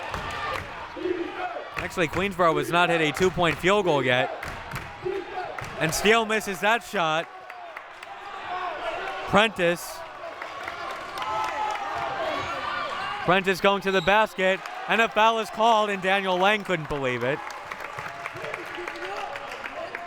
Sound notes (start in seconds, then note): 0.5 clapping; 4.4 clapping